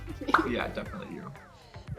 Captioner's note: giggling